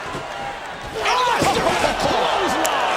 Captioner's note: all exclaiming